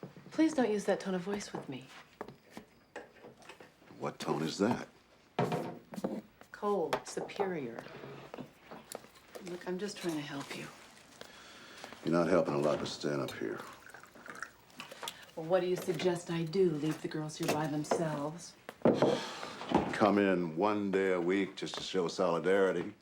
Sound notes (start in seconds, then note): 19.0 sighs